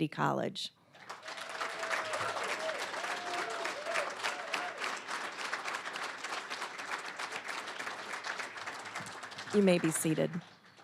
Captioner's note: applause, cheering